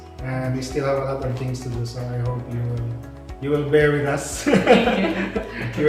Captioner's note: laugh